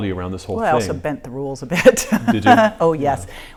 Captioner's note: laughing